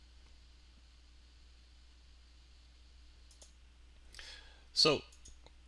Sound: silence

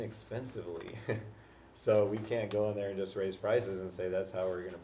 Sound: laugh

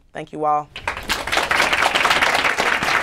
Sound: applause

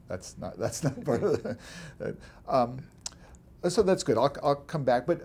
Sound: laughs

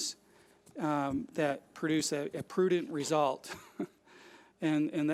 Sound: laughs

